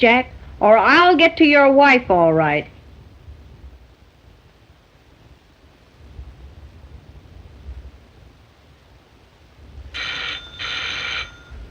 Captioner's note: phone ringing